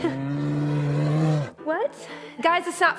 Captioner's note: roar